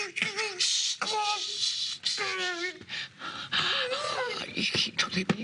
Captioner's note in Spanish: Quejidos